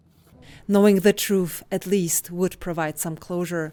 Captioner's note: voice-over